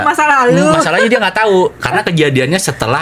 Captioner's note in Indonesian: tertawa